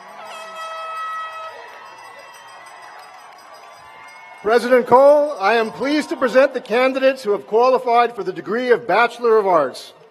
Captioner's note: cheers and applause